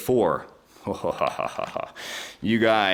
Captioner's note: chuckling